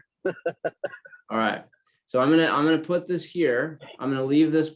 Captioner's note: laugh